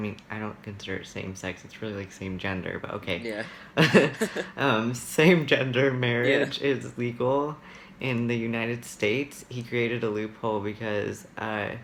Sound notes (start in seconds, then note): 6.2 laughs